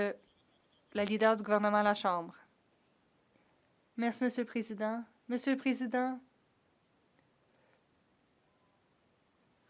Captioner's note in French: voix de l'interprète